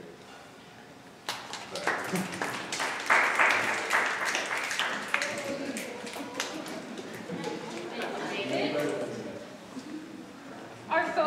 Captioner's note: audience applauds